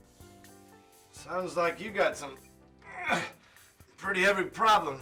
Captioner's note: grunts